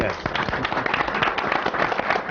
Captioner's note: applause